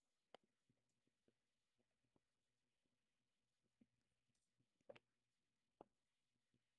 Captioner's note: mouse clicking